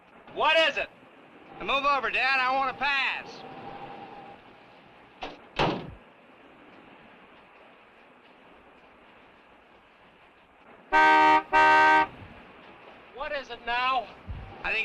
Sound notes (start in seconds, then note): 10.9 horn honking